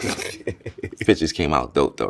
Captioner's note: laughs